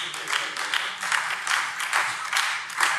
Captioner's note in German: Beifall Freie Demokraten und BÜNDNIS 90/DIE GRÜNEN